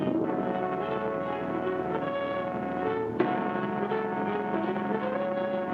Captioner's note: boat hums; dramatic music